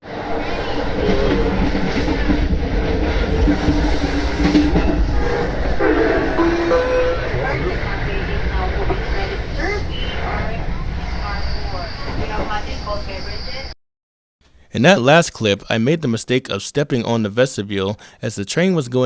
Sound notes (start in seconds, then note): 0.2 train switches track, Amtrak ACS-64 horn, with doppler effect; 6.0 Acela Express announcement chime